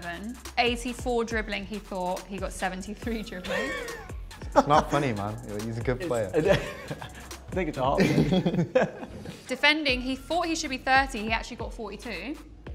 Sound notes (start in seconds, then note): 3.4 chuckle; 7.9 both laughing; 8.0 chuckle